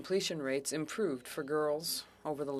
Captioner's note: speaking French